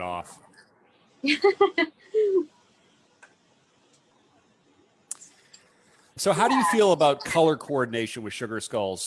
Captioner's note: chuckles